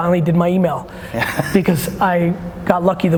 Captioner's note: laughing